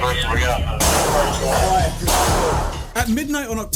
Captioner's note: gun shots echoing